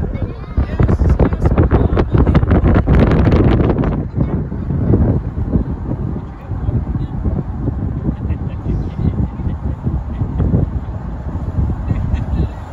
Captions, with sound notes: *wind blowing* Roxborough State Park